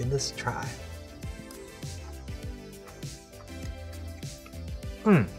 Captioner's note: chewing